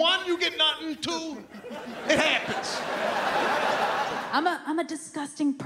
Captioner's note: audience laughs